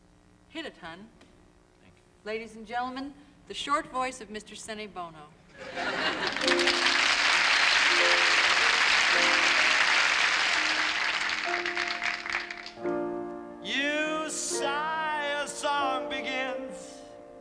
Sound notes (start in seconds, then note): 5.5 laughter; 8.5 applause